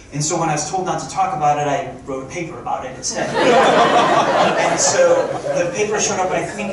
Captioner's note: crowd laughing